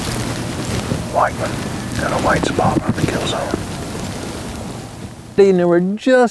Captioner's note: whispering